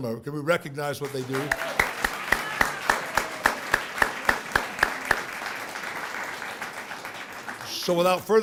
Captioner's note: applause